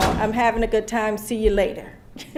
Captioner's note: laughter